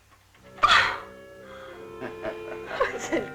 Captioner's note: laughing